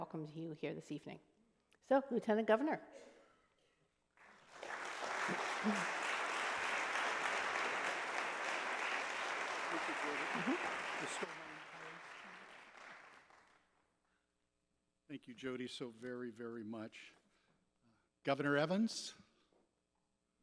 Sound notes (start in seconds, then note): 4.2 applause